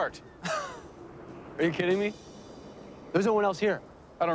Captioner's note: scoffs